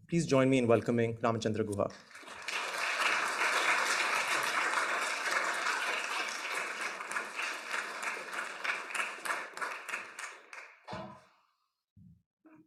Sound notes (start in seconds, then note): 1.9 audience applauding